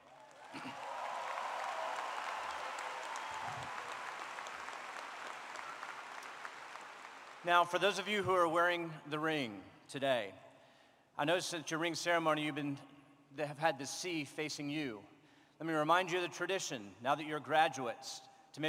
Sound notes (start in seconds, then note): 4.0 applause